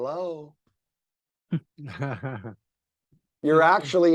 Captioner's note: laughing